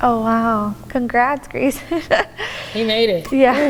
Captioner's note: laughs